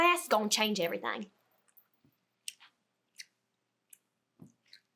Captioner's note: teeth gnashing